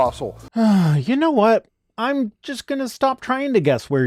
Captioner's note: sigh